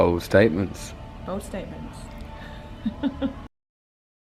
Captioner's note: laughs